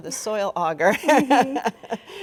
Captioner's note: both laughing